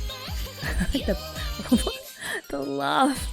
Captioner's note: laughs